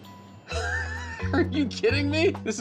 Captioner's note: laughing